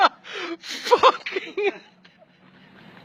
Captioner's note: laughter